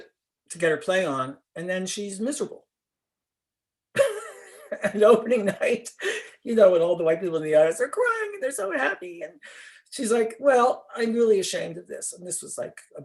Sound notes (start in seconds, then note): 3.9 laughter